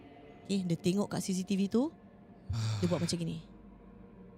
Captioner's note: sighs out of fear